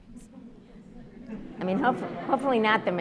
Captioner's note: audience laughs